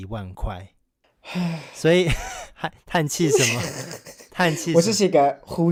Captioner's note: sighs